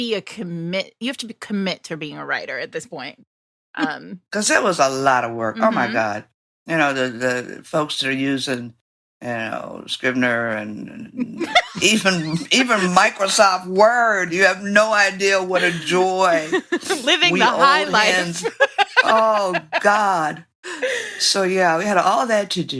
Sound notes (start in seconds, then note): 16.5 laughing